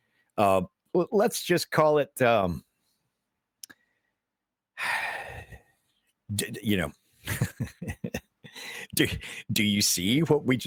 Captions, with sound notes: Let's just call it, (sighs) you know. (laughing) Do you see what we